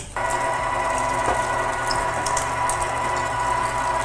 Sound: meat grinder whirring

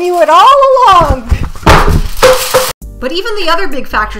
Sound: thud!

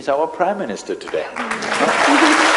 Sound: applause

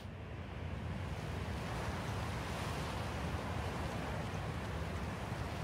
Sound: wind blowing

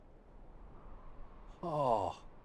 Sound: wind howling

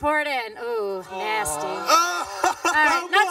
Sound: laughing

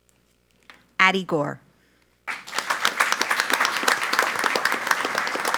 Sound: audience applauds

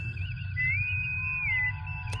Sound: bosun whistle

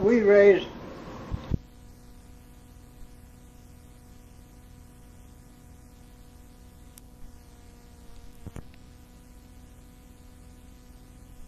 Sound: break in tape

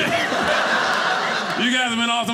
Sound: audience laughing

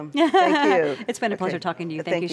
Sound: laughs

